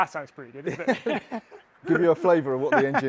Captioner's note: both laughing